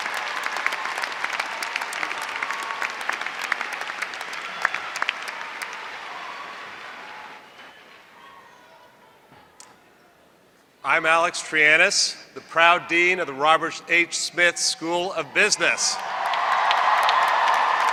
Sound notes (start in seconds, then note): 3.6 applause